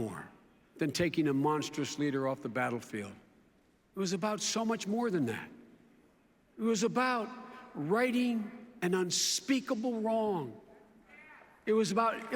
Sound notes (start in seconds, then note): none